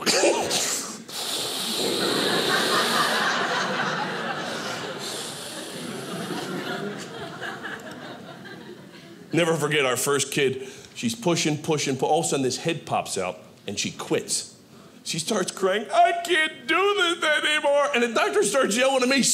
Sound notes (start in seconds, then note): 1.8 audience laughing